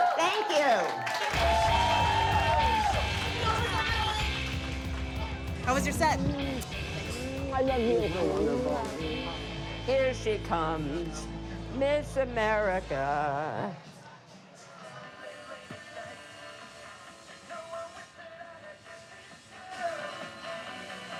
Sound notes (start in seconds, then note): 0.0 crowd cheering